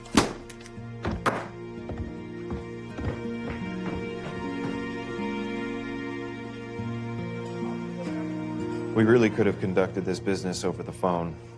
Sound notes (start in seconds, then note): 0.1 slams book closed; 4.1 stomping upstairs